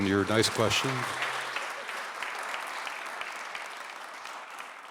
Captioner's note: audience applauding